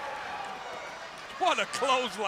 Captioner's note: crowd cheering